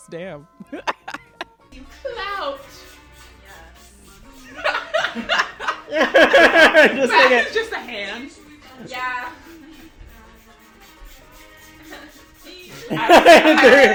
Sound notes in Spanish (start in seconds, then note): 0.6 Risas; 2.6 Risas; 10.9 Risas